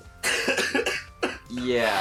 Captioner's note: coughs